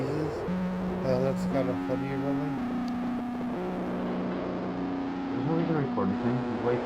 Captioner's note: murmuring